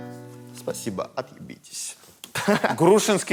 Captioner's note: laughs